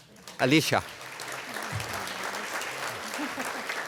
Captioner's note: applause